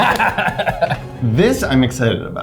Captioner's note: laughs